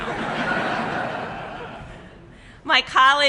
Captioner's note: laughter